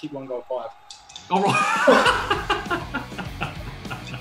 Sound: laughter

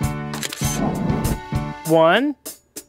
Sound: SFX: Camera Shutter

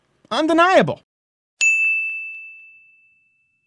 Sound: ding

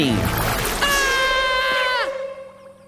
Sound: screaming

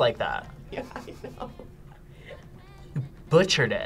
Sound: laughs

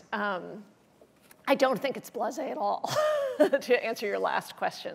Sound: laughs

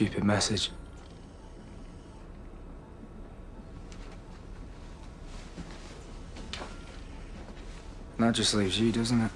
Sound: machine noises continue

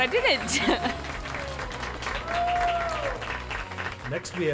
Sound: applause

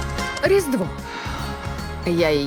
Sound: sighs

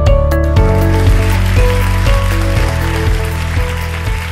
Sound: clapping

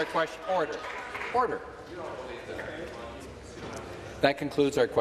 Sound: applause

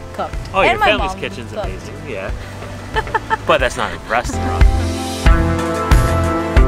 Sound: laughs

